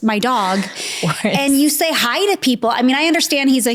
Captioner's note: laughs